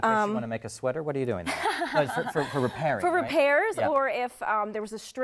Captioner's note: laugh